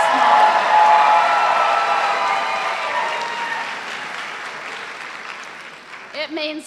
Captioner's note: cheers and applause